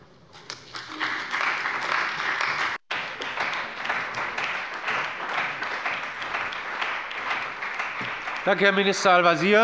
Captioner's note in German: Beifall bei der CDU und dem BÜNDNIS 90/DIE GRÜNEN